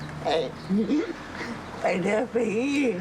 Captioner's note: laughs